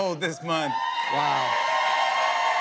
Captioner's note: cheers and applause